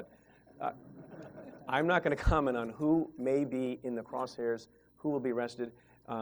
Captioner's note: laughing